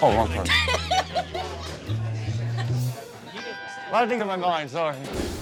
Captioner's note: customer laughs